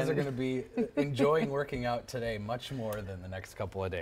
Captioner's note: laughter